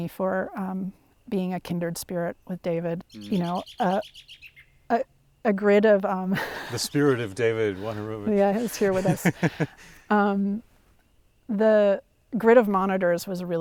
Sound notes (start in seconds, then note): 6.3 laughs; 11.9 laughs